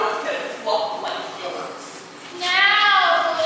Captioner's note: none